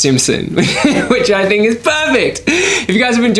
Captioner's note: laughing